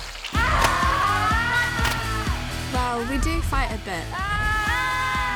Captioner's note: both scream